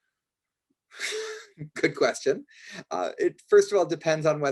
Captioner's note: laughs